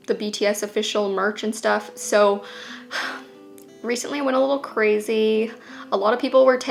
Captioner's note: sigh